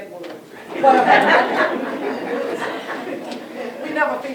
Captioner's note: laughter